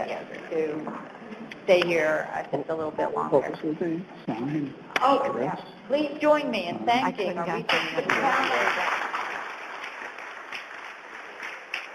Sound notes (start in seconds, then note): 4.7 audience members mumble; 7.8 audience applauds